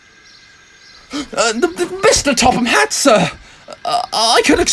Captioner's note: gasp